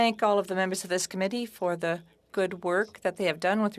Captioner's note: speaking French